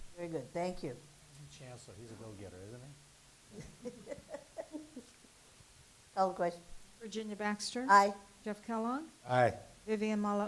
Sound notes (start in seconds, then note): 3.5 laughs